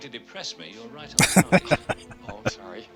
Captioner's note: laughing